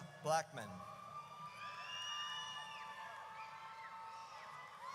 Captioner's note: audience cheers